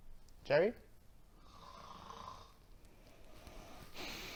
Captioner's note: more snoring